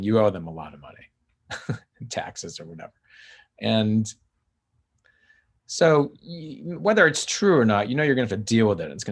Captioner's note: chuckles